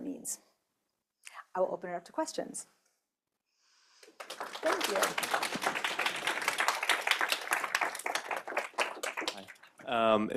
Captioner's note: applause